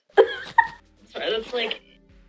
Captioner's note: cackling